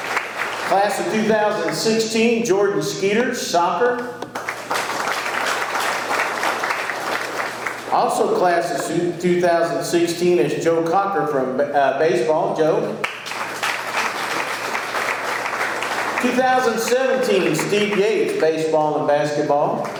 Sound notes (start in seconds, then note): 0.0 audience clapping; 4.2 audience clapping; 13.0 audience clapping